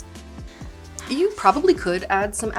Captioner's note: sighing